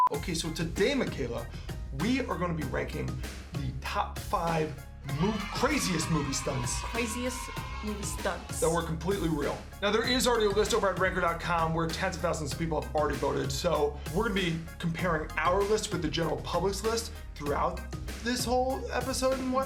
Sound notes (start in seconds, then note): 5.1 cheering